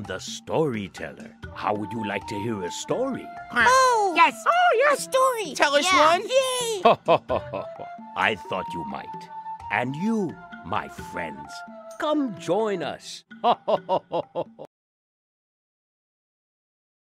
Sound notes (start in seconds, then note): 6.7 laughter